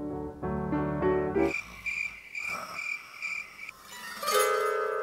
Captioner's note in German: klassische Musik; Grillen zirpen